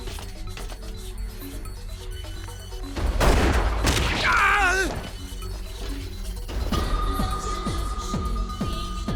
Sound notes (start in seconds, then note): 4.3 groans